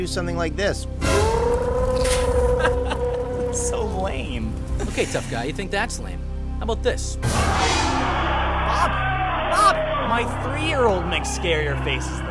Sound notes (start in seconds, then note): 1.0 roaring; 2.2 chuckles; 7.2 screeching